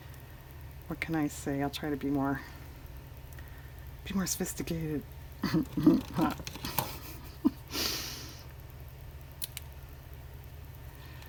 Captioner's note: laughs